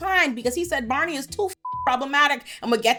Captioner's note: beep